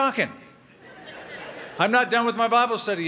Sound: laughter

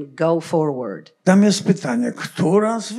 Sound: foreign language

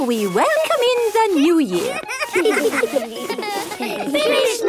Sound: laughter

